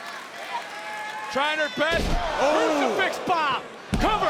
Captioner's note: Booker exclaims